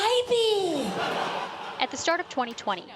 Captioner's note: laughter